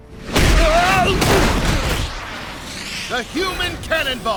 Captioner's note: wincing